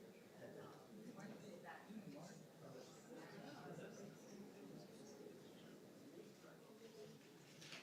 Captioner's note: audience noise continues